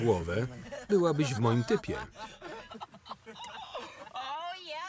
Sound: all laughs loudly

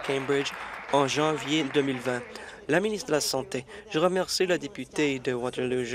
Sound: applause

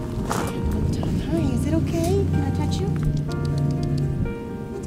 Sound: tongue clicking sounds

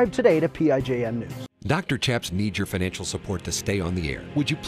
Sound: voiceover

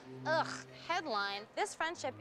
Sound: shudders

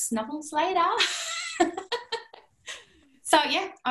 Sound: laughter

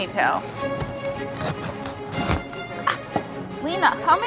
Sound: meat sawing

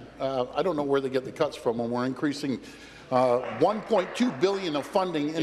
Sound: applause

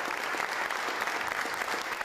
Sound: applause

